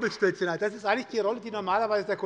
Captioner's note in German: Beifall bei der SPD